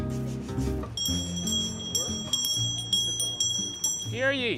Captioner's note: hand bell rings